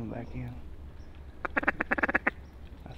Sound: duck calling

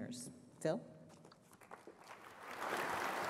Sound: applause

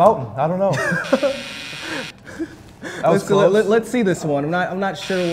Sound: buzzer sound

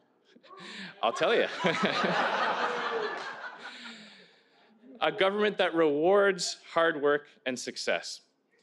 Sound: cheers

